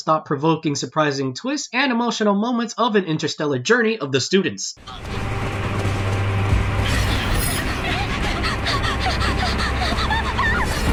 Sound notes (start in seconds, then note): 4.8 thrilling background music; 7.9 panicky panting